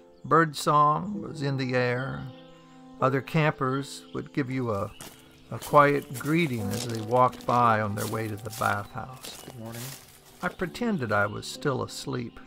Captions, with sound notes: Birdsong was in the air. Other campers would give you a [Footsteps in leaves] quiet greeting as they walked by on their way to the bathhouse. I pretended I was still asleep,